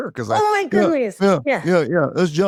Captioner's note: mimics brother